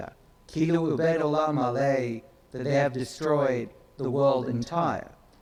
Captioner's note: speaks in foreign language